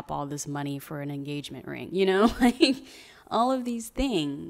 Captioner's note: laughs